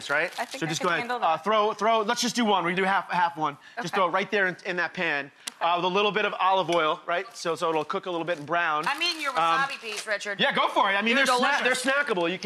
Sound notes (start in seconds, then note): none